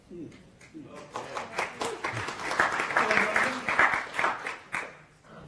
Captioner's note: applause